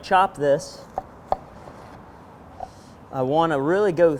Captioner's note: chopping